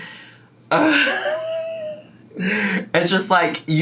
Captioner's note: groans and laughs